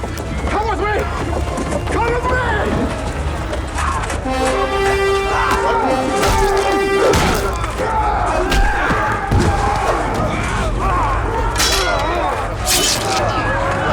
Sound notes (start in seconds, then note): 2.5 horn blows; 6.9 screams; 10.4 suspenseful music playing